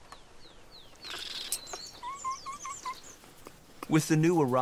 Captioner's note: whimpers